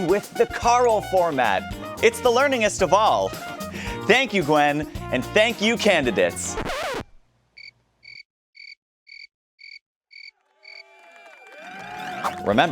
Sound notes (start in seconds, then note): 6.4 record scratch; 8.0 crickets chirping; 10.4 crowd applauding